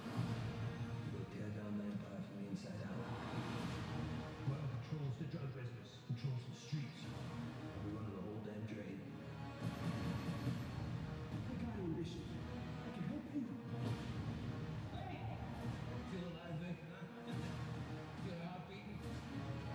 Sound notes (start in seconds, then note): 9.6 explosion; 9.6 gunshots; 17.3 laughs